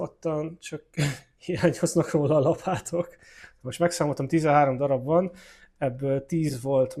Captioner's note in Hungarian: nevetés